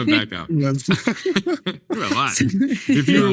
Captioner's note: group laughing